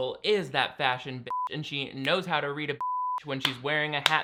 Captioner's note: beep; beep